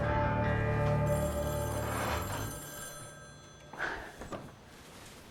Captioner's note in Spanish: Suena el teléfono